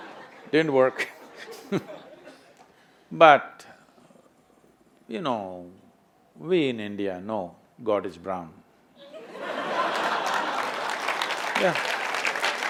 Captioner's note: laughter/Applause